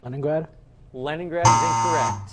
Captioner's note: buzzer